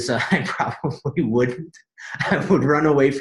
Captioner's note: chuckles